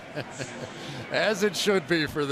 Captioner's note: chuckles